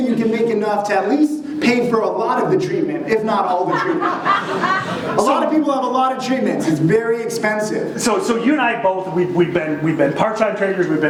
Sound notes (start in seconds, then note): 3.5 audience laughing